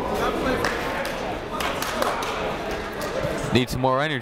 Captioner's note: people talking in the crowd; clapping